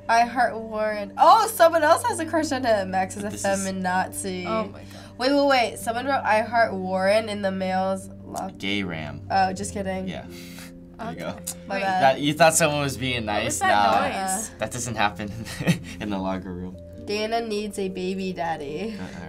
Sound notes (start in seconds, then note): 10.4 chuckles; 15.4 chuckles